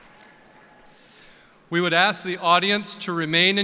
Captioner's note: applause